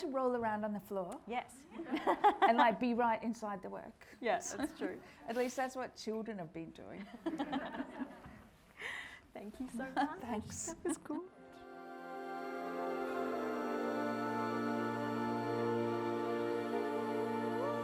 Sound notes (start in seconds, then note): 1.6 audience laughing; 7.3 everyone laughing; 11.4 gentle music